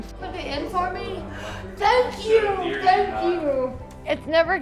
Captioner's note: gasps